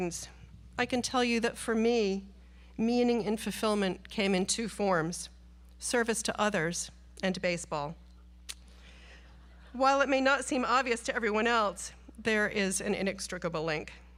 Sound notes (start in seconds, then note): 9.3 audience laughs